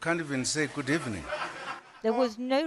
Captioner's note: laughter